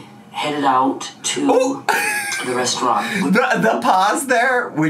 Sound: laughs

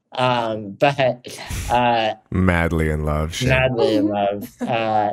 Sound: chuckles

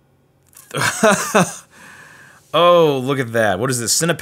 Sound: laughs

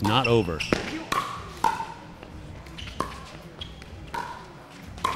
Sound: ball bouncing

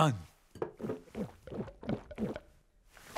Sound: chugging beer

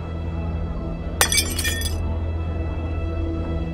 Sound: shatters

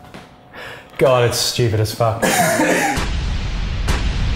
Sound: both laughing

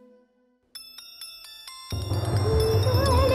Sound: phone rings

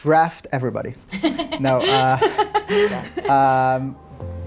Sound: laughs

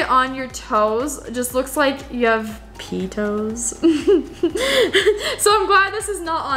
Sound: laughs

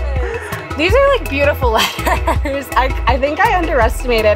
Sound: chuckling

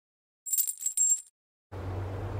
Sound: chain sound

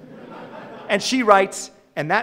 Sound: audience laughing

